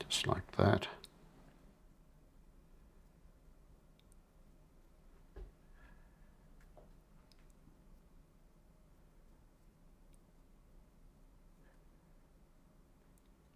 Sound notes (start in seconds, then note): 0.0 silence